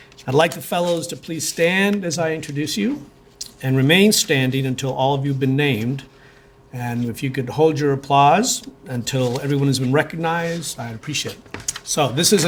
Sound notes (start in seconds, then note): none